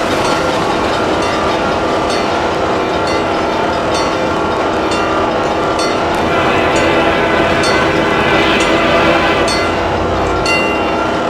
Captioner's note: diesel engine revving, wig wag ringing